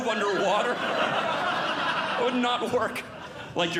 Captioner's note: audience Laughing